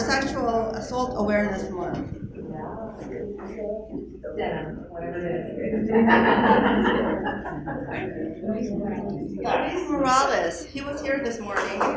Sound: applause

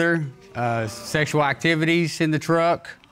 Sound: audience exclaiming

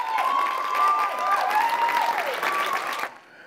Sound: applause

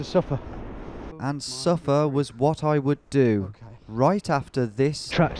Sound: voiceover

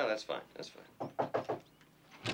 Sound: knock on door

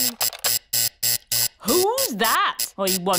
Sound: alarm buzzes

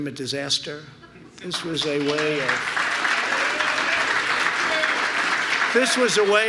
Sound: applause

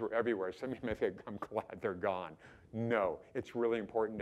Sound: chuckling

